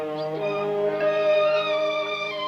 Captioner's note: none